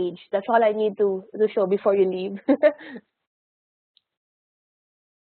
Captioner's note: chuckles